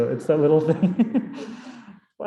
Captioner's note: chuckles